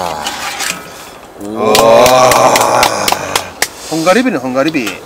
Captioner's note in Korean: 짝짝짝짝